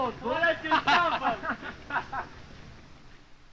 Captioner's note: soldiers laughing